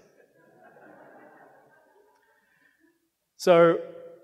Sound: audience laughing

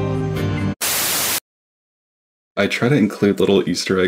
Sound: TV static buzzes

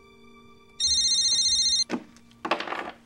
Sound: phone rings

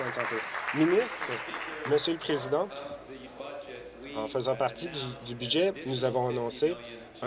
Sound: applause

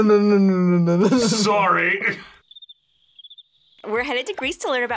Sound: laughs; crickets chirping

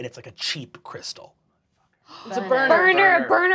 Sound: gasping

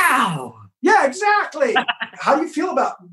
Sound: laughs

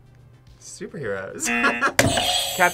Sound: buzzer rings; laughs; buzzer rings

